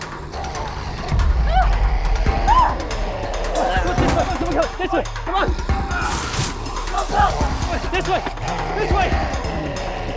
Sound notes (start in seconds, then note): 0.0 growling; 2.2 screaming; 6.1 zapping